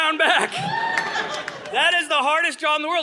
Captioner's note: audience laughing